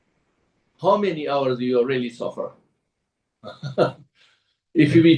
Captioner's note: laughs